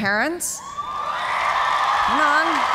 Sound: cheers and applause

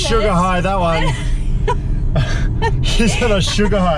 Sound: laughing

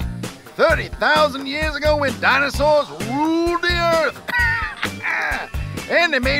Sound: laughs

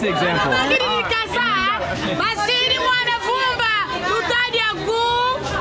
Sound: woman speaking foriegn language

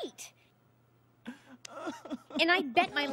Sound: sobbing

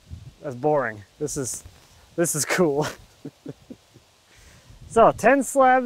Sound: laughs

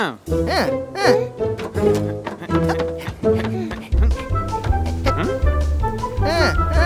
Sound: sound of footsteps

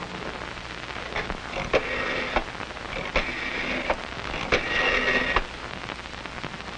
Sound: dialing telephone

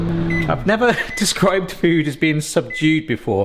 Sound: beeping

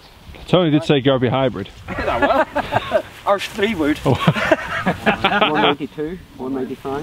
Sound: laughs

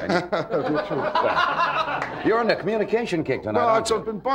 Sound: laughing

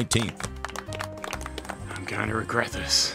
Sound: golf crowd claps

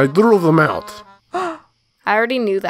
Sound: gasp

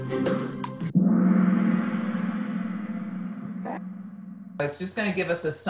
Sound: gong

